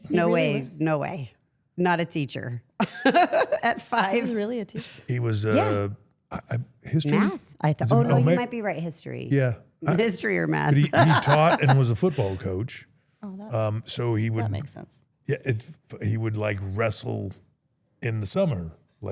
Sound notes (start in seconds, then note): 10.7 Steph laughs